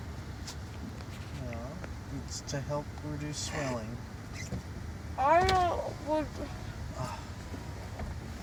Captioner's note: sigh of relief